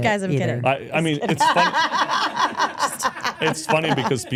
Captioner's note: speaker laughs